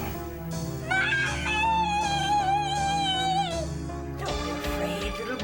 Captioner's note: screams